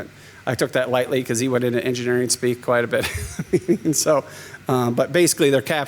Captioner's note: laughs